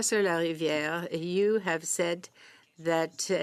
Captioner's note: speaking French